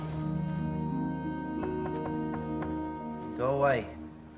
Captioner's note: knocking